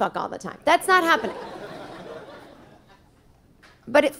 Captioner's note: audience laughing